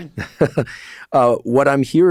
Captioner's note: Andrew laughs